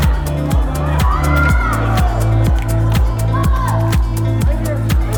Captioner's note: shouting